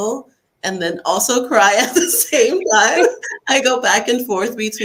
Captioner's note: laughter